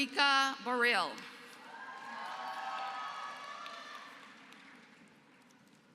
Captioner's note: applause